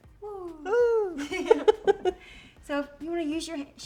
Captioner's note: both laughing